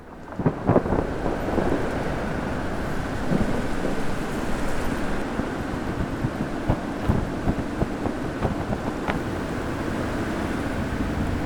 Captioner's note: wind gust